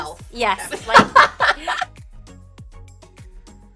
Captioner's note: laughing